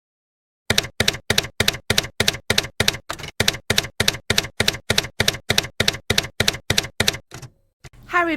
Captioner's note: typewriter keys clacking